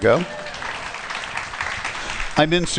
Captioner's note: applause